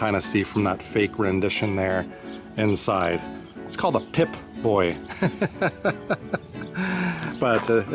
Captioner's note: laughter